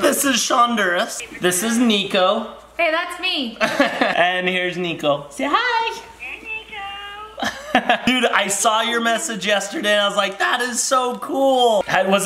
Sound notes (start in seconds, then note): 3.6 laughs